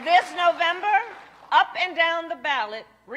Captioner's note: applause